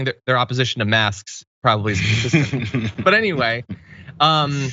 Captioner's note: laugh